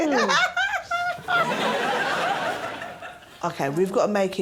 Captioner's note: chuckles